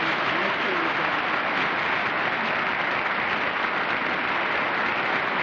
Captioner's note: applause